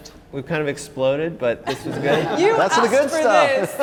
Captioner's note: laughter